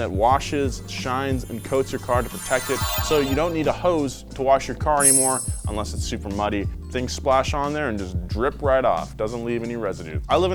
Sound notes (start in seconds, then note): 0.3 shimmery spell chimes